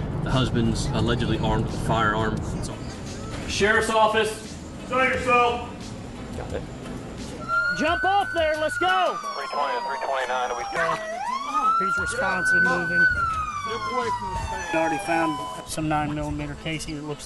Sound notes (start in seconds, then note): 9.2 radio traffic; 10.1 siren